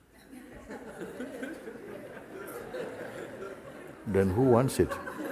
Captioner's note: Lachen